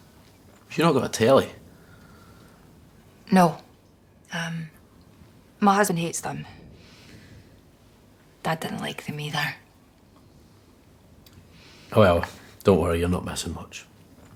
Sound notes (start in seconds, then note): none